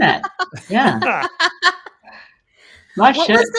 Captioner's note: laughing